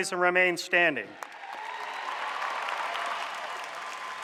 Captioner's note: applause